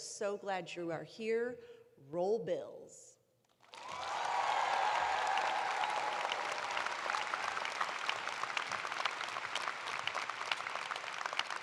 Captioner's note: cheers and applause